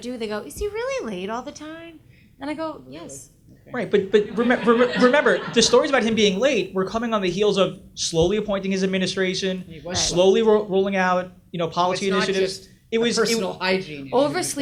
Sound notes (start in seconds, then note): 3.9 audience laughs